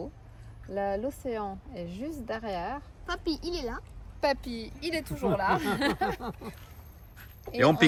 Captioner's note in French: rires